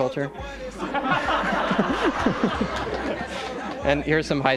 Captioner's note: laughter